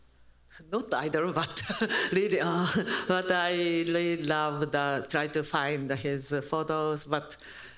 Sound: japanese

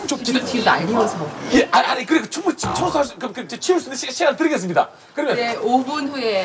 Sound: stuttering/ mouth not working from excitement

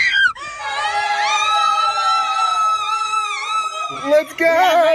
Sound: screaming

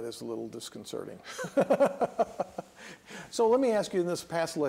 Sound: laughter

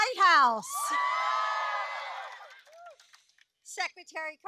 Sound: applause

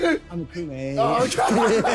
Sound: laughing

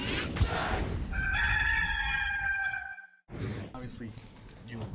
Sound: rooster crowing

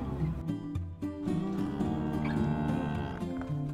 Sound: mooo

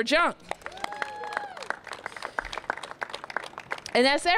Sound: cheers and applause

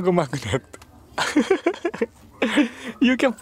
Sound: laughs

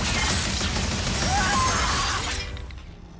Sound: screaming

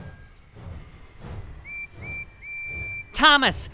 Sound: Percy whistles

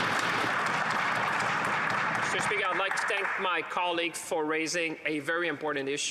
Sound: applause

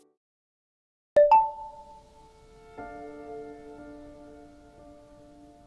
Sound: phone chimes

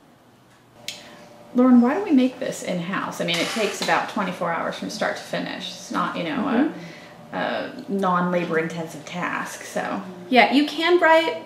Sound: sound of stirrer machine

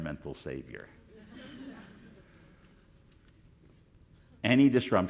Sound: audience laughing

